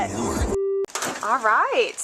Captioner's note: beep